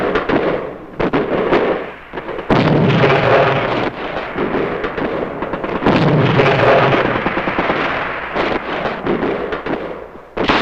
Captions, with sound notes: - I'll take 'em back. (guns firing) (explosions booming)